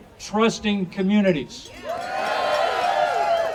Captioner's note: audience cheering